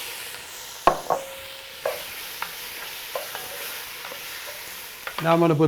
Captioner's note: sizzling